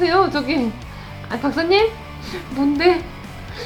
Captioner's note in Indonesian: tertawa